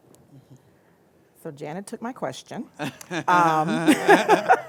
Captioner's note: laughter